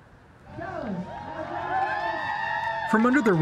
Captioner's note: cheering